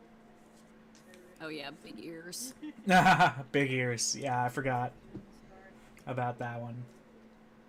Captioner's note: laughter